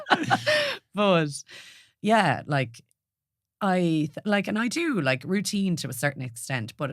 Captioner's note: laughs